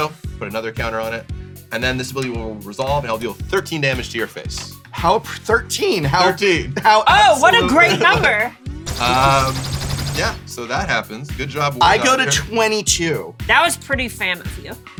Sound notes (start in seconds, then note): 8.9 laser sound effect